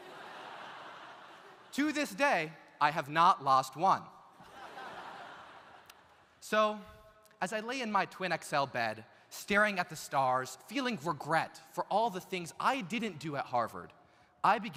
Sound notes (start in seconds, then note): 0.0 audience laughs; 4.4 audience laughs